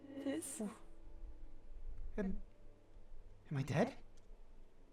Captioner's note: stuttering